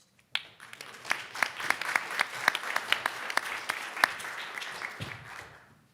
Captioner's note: audience applauding